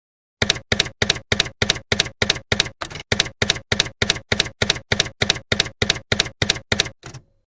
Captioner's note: typewriter keys clacking